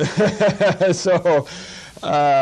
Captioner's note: laughter